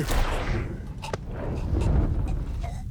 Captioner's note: choking